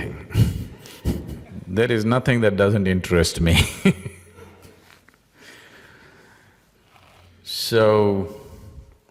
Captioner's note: laughs